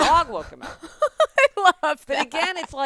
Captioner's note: laughing